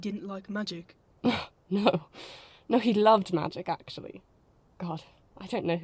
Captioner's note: Lily laughs